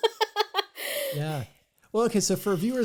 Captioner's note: laugh